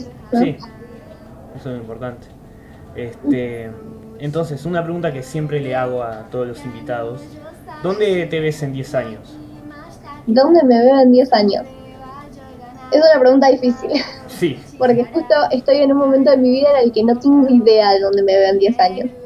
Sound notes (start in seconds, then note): 13.7 laughs